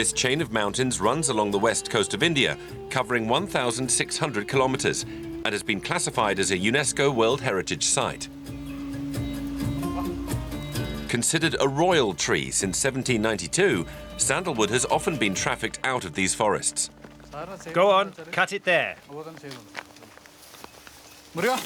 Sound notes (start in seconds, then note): 17.0 foreign language; 18.0 voiceover